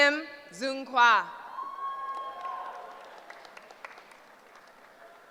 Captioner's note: cheering